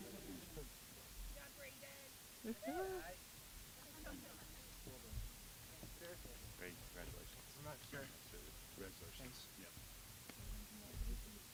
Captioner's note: applause